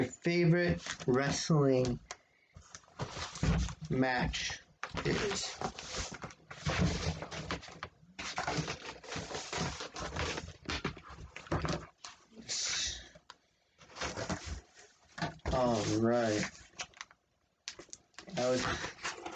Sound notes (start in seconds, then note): 6.9 shuffling of cardboard